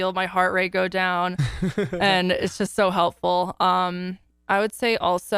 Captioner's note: laughs